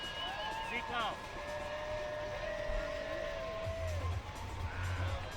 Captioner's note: cheering